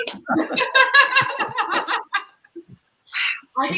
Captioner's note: all laugh